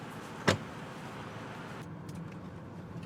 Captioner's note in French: porte de voiture qui se ferme